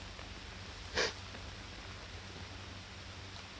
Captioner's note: sniffling